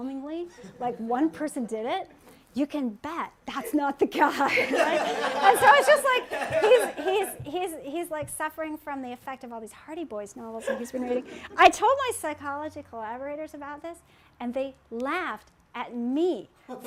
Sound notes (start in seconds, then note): 4.4 laughter